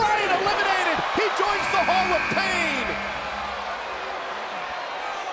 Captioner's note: buzzer buzzing; crowd chattering